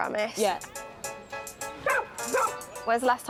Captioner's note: barks